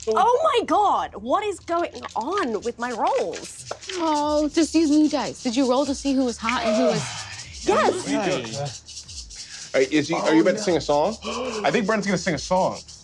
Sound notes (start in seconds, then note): 3.4 shaking a handful of dice